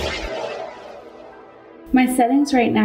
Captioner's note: swooshing